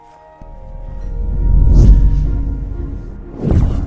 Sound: magic sounds

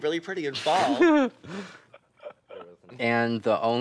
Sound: laughing

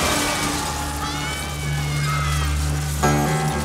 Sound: screams

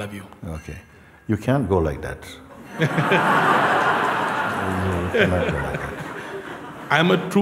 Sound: laughter

